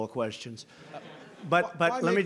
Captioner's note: laughter